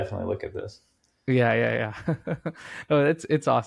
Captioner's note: chuckling